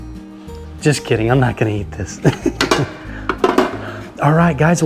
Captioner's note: laughs